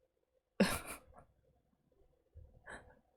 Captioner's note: chuckles